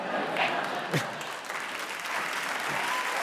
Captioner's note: audience laughing; audience applauding